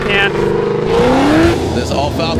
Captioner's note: engine roars